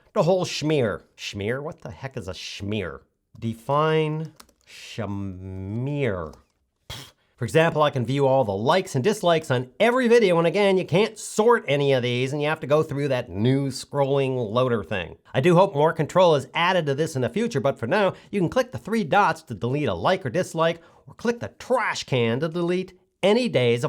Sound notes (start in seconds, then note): 6.8 puffs